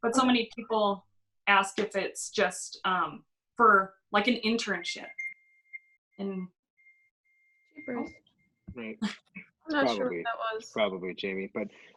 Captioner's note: chimes